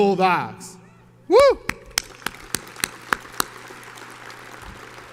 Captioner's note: audience applauds